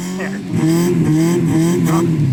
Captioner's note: grunting; Subaru screams in pain